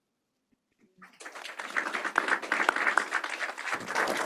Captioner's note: applause